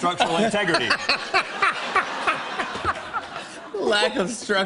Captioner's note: laughter